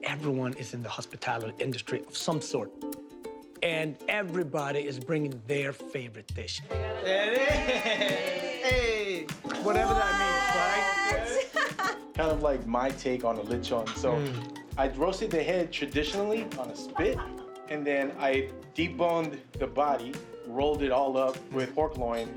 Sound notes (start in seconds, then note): 6.6 excited chatter; 11.2 laughs